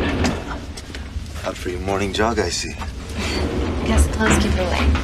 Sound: Meg chuckles

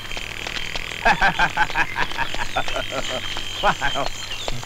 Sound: laughs

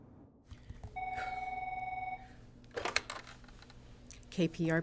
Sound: John chuckles; phone ringing

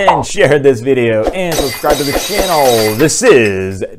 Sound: glass breaking

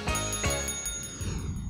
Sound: bell ringing

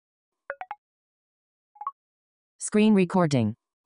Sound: digital sound

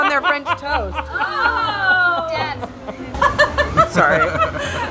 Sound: laughing

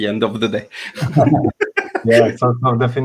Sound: laughs

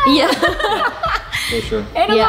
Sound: laugh

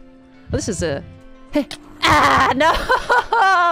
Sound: Ravager noises

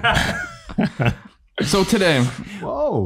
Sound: laugh

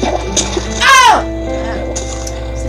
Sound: screams in fear

